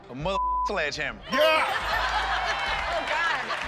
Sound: laughter

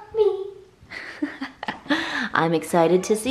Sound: laughing

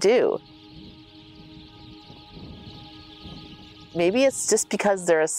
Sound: birds chirping

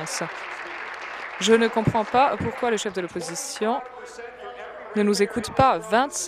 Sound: applause

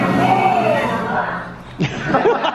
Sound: screaming; laughter

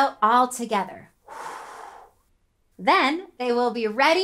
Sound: exhaling

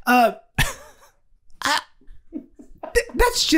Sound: guys laughing

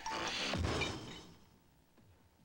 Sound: loud thud

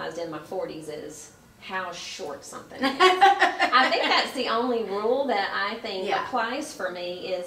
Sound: laughs

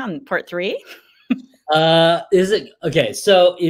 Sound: laughs

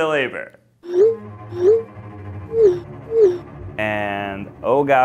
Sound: text message sounds

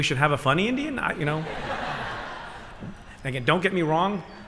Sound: laughter

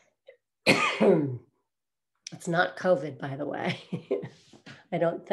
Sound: coughs; chuckles

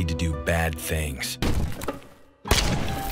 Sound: thud

